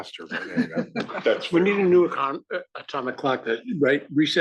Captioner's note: laugh